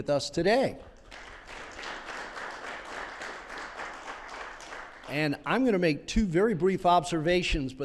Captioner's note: applause